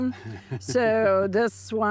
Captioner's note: laughs